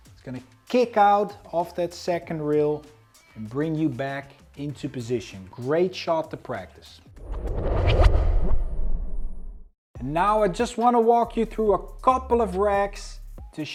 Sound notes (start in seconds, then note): 7.2 transition whooshes